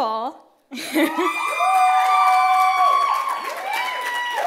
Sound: cheers

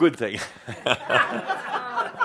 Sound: Adamus chuckles

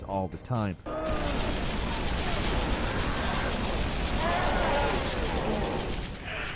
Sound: guns firing; monsters roaring

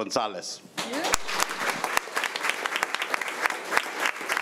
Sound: crowd clapping

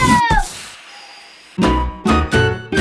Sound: magical cauldron poof; happy music

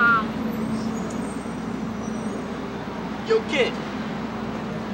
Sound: brakes Screeching

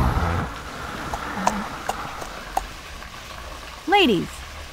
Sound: horse hooves clopping

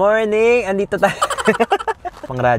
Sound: laughs

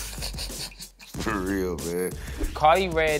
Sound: laughs

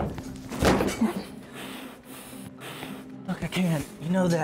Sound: crashing

